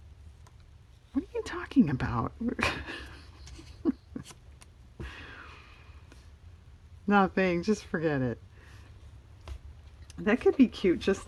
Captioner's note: laughs